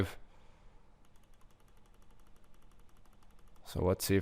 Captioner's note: mouse clicking